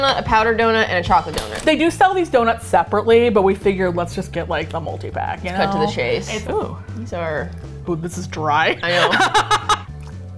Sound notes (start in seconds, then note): 8.8 laughs